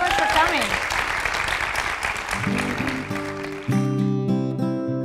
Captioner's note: applause